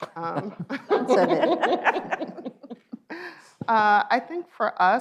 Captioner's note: laughs